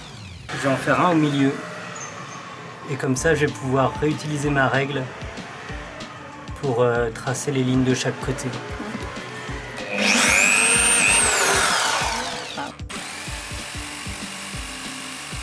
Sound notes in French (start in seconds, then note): 0.0 bruit de perceuse; 8.9 bruit de perceuse; 13.0 bruit de scie sauteuse